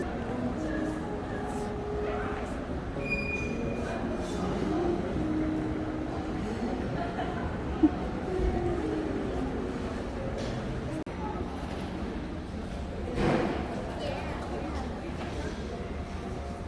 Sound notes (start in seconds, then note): 11.0 laughs